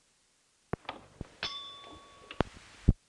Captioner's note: bell Sound